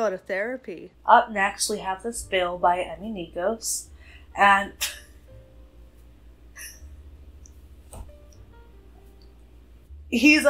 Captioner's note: laughs